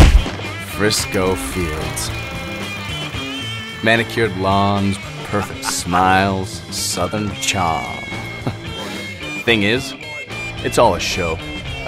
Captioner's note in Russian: смешок